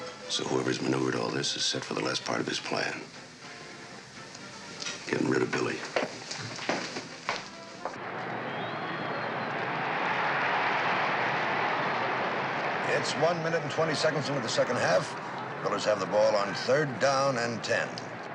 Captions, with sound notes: So whoever's maneuvered all this is set for the last part of his plan. Getting rid of Billy. [crowd cheering] It's one minute and 20 seconds into the second half. The Drillers have the ball on third down and 10.